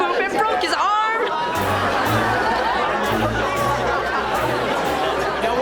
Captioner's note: laughing